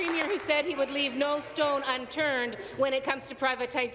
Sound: applause

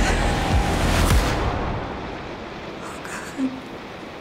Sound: gasps

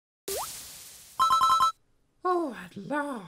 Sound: tuna collecting sound

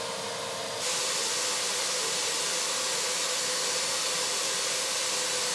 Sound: vacuum cleaner whirring

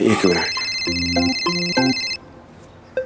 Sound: mobile ringing

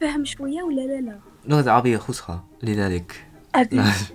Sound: Arabic

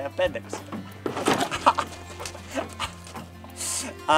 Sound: chuckles

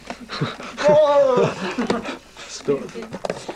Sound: laughter

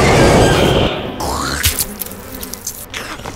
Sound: roar!; chomp; eating Sounds

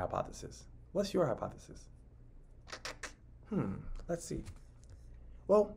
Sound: clicks tongue

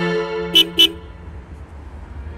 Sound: car horn beeping

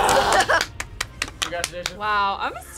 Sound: claps

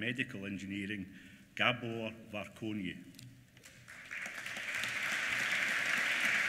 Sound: applause

